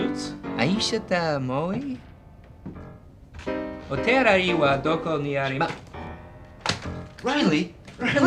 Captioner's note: speaking japanese